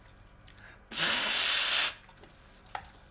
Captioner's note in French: soufflement NES